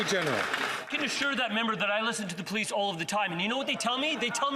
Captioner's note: some Applause